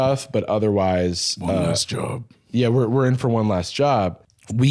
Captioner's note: deep voice